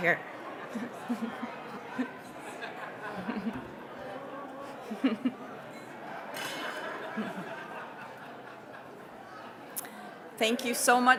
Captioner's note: general chatter